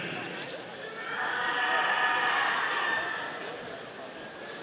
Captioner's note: audience cheering